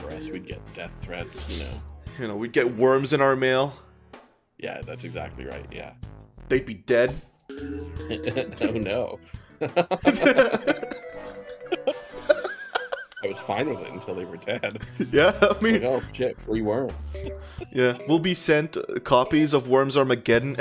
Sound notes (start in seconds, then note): 9.6 laughter